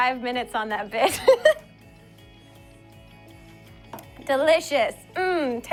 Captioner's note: giggles